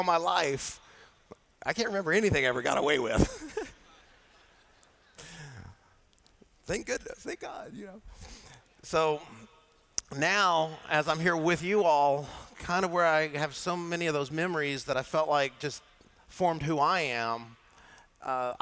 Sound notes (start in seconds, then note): 5.5 laughter